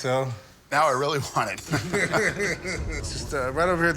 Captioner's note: laughter